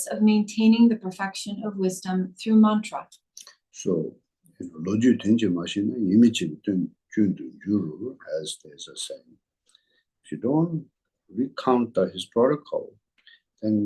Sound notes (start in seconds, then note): 5.7 tibetan